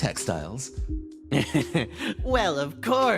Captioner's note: Sayadnapt Laugh